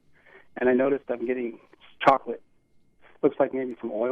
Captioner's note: none